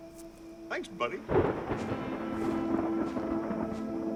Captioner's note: thunder